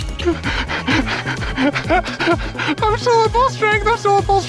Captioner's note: gasping